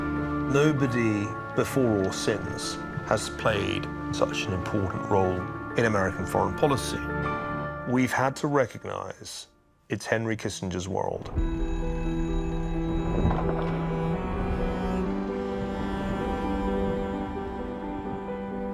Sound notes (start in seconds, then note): 11.3 phone ringing